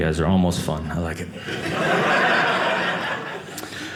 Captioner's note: audience laughing